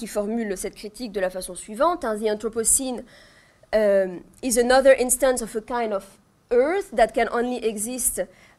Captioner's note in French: en anglais